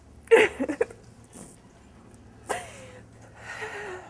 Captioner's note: sobbing